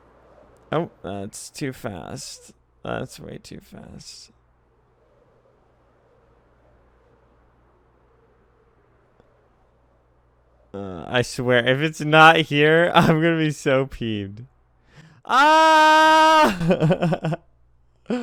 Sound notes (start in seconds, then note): 14.8 inhale; 16.6 tired laugh